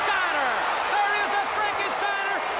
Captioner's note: crowd cheers